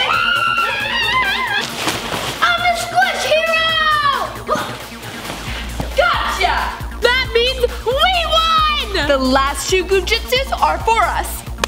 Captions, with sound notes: - I'm a squish hero! (grunts) - Gotcha! - That means we won! - The last two Goo Jit Zus are for us.